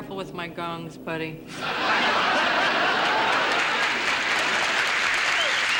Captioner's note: audience laughing and applauding